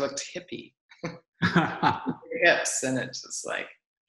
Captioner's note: laughs